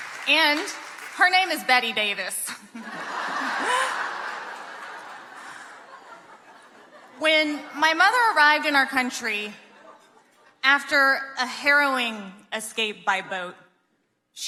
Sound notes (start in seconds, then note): 0.0 audience clapping; 2.6 audience laughing